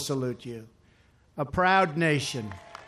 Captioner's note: applause